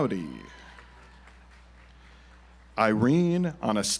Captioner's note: audience applauds